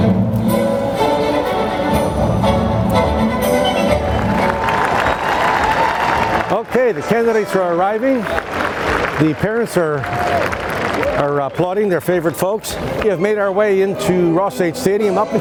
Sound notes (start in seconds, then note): 4.4 crowd applauding